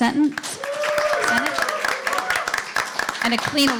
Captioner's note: applause